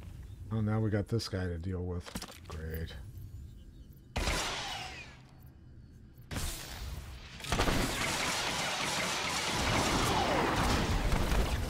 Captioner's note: gunshots